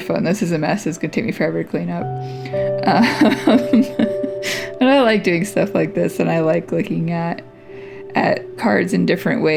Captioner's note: laugh